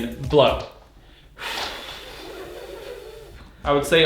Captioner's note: blowing